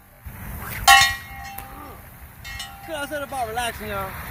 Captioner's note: splash; loud metal ringing; sling whips